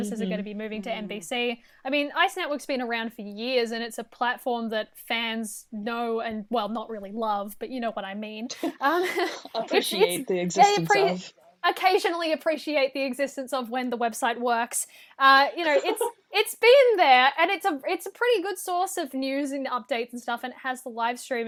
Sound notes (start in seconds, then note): 8.5 laughter